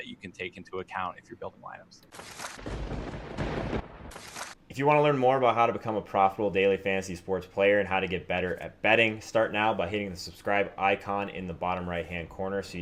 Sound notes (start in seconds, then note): 2.2 lightening; 2.6 thunder